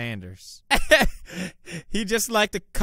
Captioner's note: cute laugh